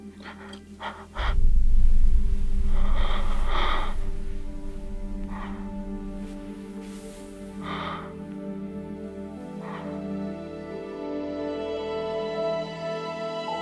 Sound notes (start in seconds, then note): 1.0 low fluttering; 2.6 long exhale